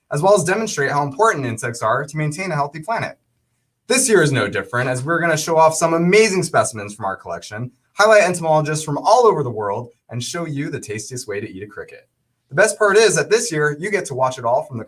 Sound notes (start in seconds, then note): none